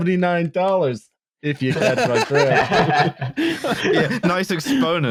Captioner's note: laughter